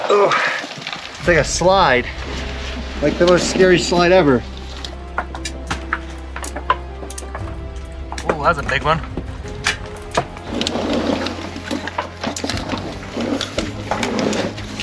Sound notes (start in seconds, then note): 4.8 rock clattering